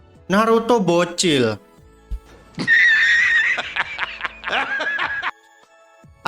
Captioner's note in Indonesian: tertawa